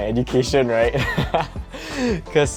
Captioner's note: laughs